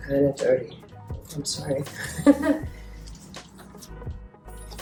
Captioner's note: laughs